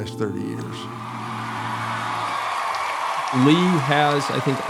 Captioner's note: audience applauding